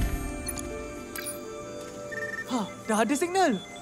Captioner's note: watch beeps, trills